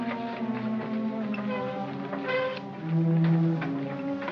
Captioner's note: creaking; gloomy music; sounds of shoveling & tapping